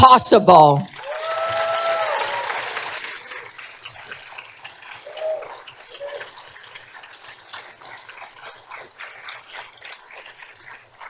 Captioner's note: applause